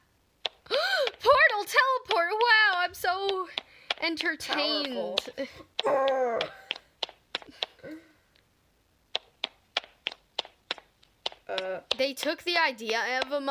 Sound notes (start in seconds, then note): 9.1 in-game walking sounds